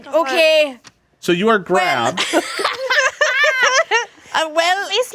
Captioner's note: laughing